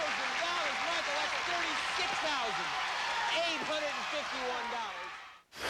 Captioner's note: cheers and applause